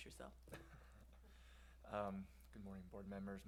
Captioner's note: laughs